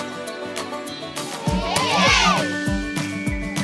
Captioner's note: kids cheering in movie